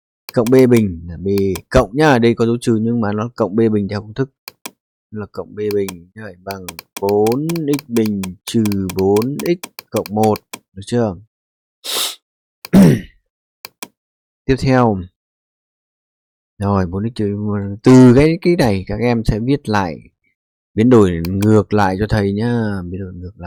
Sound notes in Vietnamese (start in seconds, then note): 11.8 khịt mũi